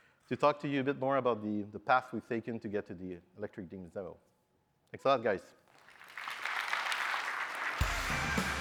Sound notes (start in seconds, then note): 5.7 applause; 7.7 upbeat music